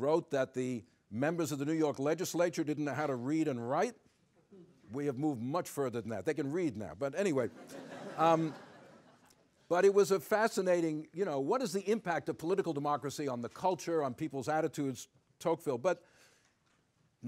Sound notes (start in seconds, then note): 7.4 laughter